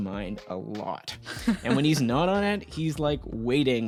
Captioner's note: laughing